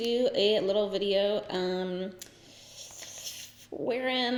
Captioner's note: sucks in air